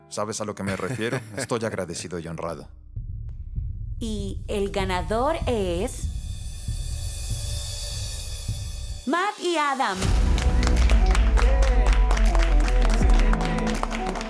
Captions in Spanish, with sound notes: ¿Sabes a lo que me refiero? Estoy agradecido y honrado. - Y el ganador es... ¡Matt y Adam! (aplausos)